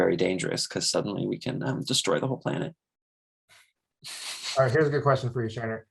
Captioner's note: chuckles